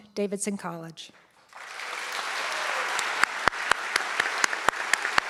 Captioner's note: audience clapping